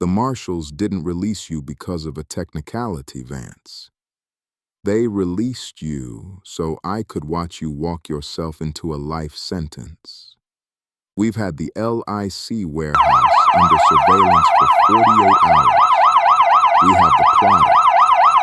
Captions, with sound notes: The marshals didn't release you because of a technicality, Vance. They released you so I could watch you walk yourself into a life sentence. We've had the LIC warehouse under surveillance for forty-eight hours. [siren blaring] We have the quiet.